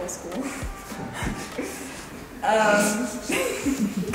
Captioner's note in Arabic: يضحك